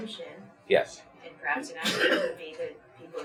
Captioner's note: coughs